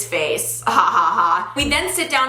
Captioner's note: laughs